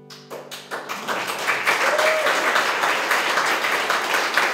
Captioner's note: applause